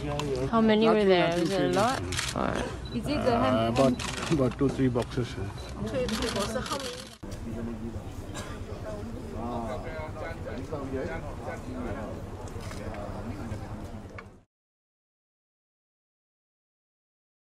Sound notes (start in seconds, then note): 7.1 chatter